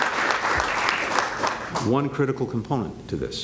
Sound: applause

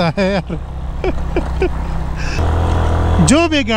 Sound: laughing out loud

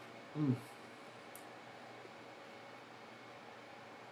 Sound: moaning

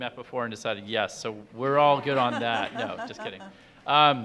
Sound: audience laughing

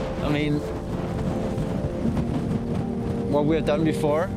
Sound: wind blowing

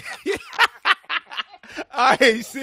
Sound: laughter

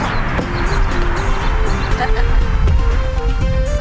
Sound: laughs in distance

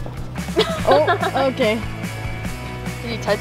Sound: laughing

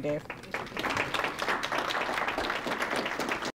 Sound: audience clapping

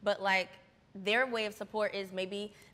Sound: none

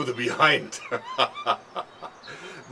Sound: laughing

